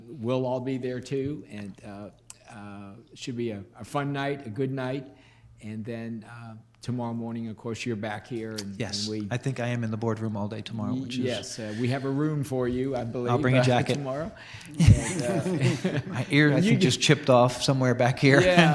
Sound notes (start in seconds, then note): 14.7 laughing